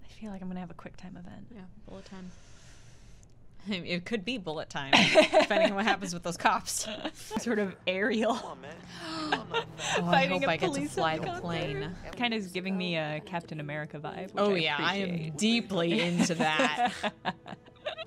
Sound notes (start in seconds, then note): 8.9 gasp